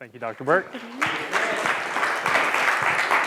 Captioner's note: applause